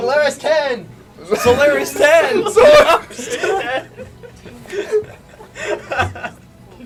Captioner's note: the others chuckle